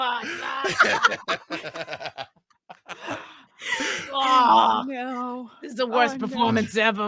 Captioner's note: laughing